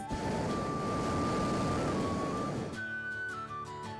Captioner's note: flame whirring